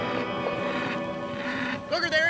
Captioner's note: bull grunting